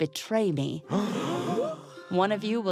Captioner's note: gasps